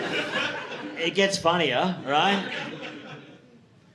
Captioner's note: audience laughing